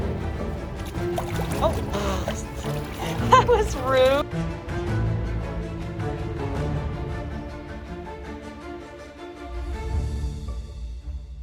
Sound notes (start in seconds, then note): 0.3 water splashing